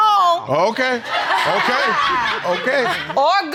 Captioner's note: laughing in audience